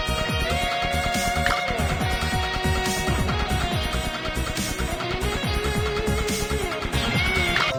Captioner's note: laughs